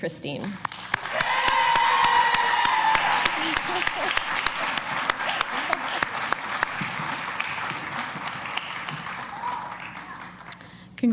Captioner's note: applause